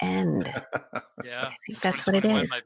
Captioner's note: laughing